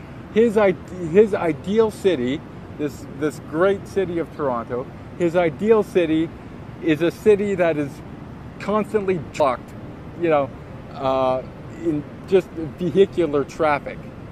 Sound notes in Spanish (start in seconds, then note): none